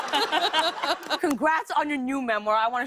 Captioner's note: laughter